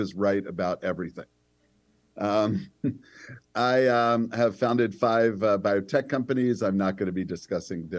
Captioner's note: laughter